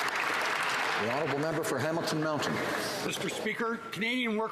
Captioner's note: applause